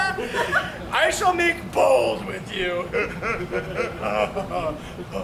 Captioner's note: laughs